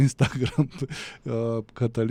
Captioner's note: laughter